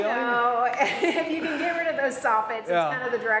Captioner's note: laughs